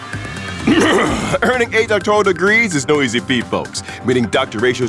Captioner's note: cough cough